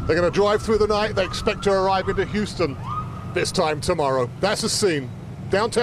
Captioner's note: siren